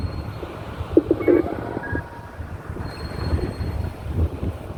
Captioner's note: telephone noise